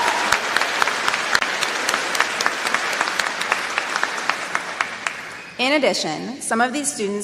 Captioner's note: applause